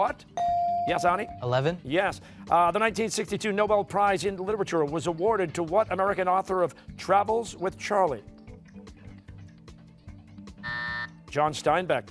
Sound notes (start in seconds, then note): 8.8 buzzer